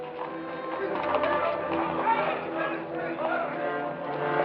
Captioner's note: tense music; indistinct shouting